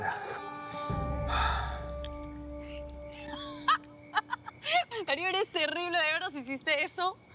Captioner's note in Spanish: risas